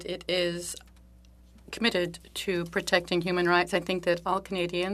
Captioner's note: speaking French